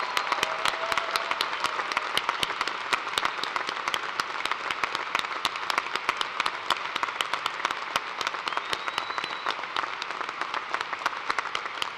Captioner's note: cheers and applause